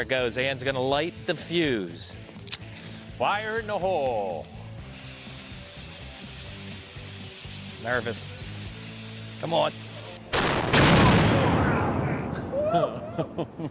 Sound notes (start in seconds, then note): 5.1 fuse hissing; 10.3 cannon fires; 12.5 laughing